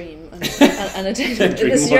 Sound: laughs

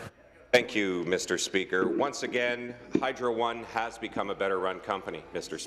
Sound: voice trailing

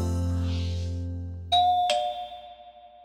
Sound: ringing

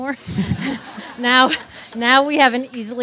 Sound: audience laughs

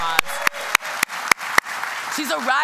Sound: applause

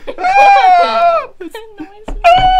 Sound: laughter; screeches

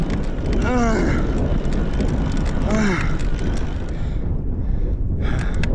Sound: grunting

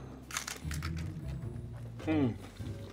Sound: chip crunches

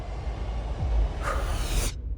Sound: tense music playing; exhales

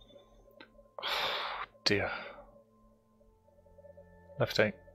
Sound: sigh

